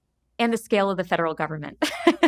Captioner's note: laughs